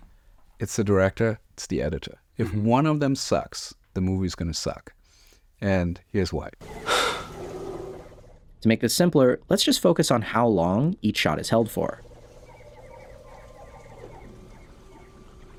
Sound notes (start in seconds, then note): 6.8 exhales; 12.0 intriguing music